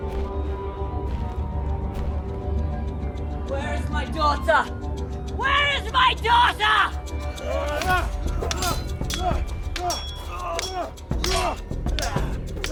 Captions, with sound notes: - Where is my daughter? Where is my daughter? (both moaning) (swords clanging)